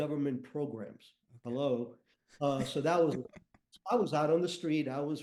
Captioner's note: chuckles